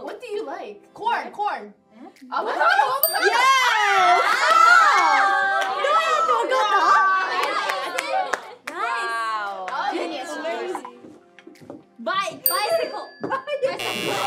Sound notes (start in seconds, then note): 6.0 speaking Korean; 13.6 buzzer ringing